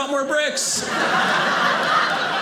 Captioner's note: audience laughing